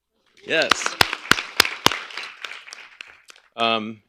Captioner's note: applause